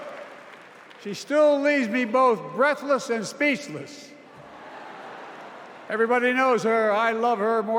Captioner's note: cheers and applause